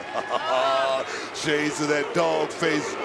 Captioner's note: laughs